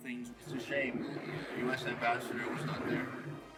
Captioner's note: Stone speaking